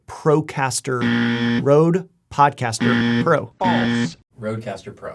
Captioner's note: alarm buzzes